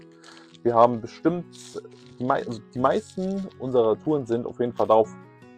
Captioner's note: sniff